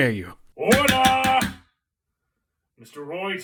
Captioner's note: gavels